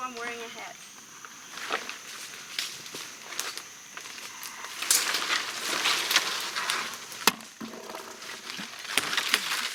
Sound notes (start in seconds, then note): 2.9 bugs chirping; 4.0 leaves and sticks snapping